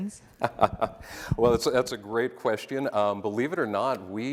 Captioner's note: laughs